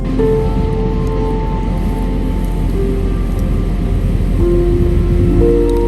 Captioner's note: wind and fire sounds